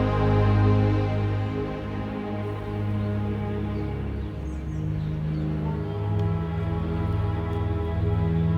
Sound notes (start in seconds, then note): 2.2 birds chirping; 5.9 gentle music